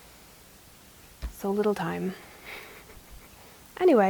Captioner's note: snickers